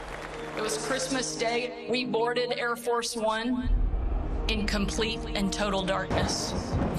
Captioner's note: applause